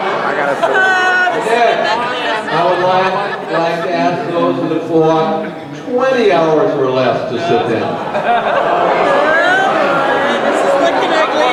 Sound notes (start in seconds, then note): 8.3 crowd laughing